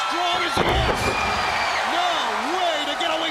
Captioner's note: crowd cheering